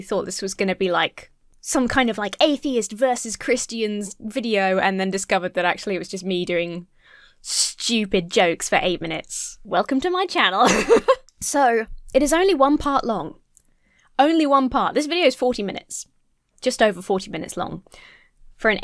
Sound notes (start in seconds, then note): 10.6 laughs